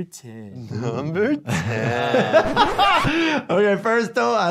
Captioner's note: laughing